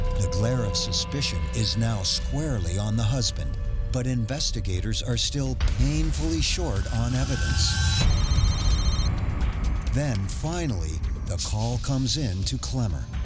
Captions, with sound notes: The glare of suspicion is now squarely on the husband, but investigators are still painfully short on evidence. (cellphone ringing) Then finally, the call comes in to Clemmer.